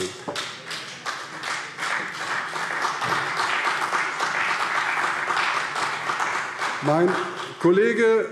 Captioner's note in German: Beifall CDU und BÜNDNIS 90/DIE GRÜNEN